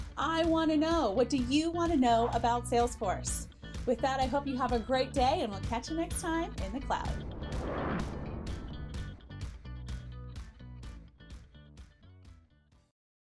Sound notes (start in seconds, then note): 6.6 sound wave; 8.6 upbeat music